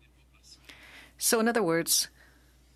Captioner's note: speaking French